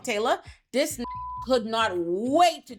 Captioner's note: beep